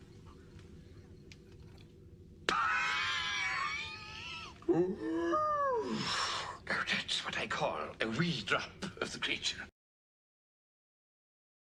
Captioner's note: gasping